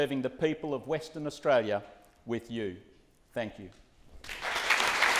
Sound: applause

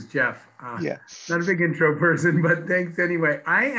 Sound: laughs

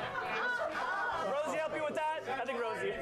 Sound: laughter; audience cheers

